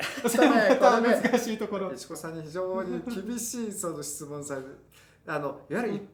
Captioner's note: laughs